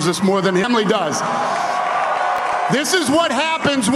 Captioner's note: applause